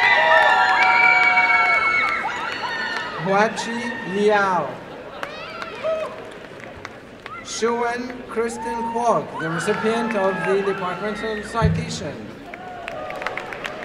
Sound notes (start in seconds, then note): 0.0 applause and cheering; 5.0 applause; 12.5 applause and cheering